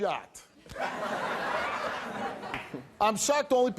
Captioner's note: audience laughing